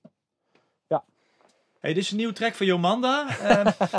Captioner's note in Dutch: Gelach